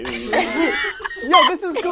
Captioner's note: all chuckle